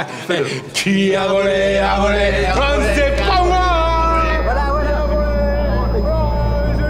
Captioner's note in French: Chants "Qui as volé, as volé, as volé l'orange du marchand"